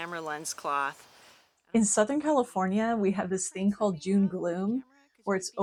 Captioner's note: voiceover